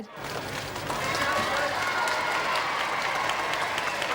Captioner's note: crowd cheers